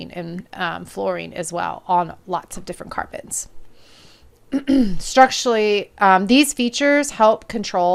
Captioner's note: cough and clears throat